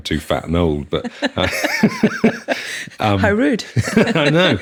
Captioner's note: laughing